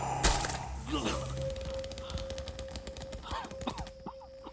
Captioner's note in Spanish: Jonathan jadea